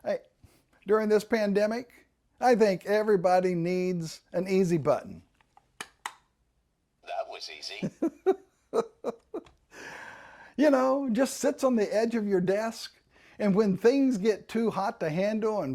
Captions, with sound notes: During this pandemic, I think everybody needs an easy button. - [Voiceover] That was easy. (chuckling) - You know, just sits on the edge of your desk, and when things get too hot to handle